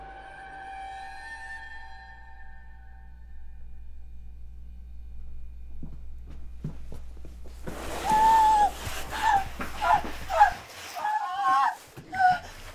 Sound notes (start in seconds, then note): 2.4 electricity buzzing; 8.0 Vanessa squealing